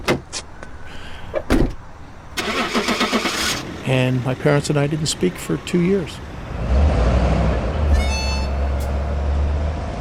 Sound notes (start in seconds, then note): 1.4 car door banging; 2.4 car engine revving; 6.4 car engine revving